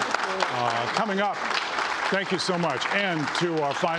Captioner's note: applause